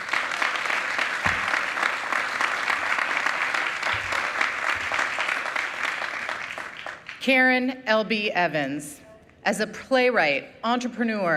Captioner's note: applause